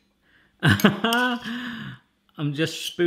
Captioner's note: laughs